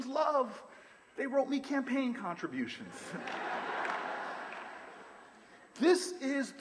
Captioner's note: laughter, applause